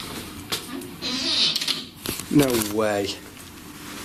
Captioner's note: door creaks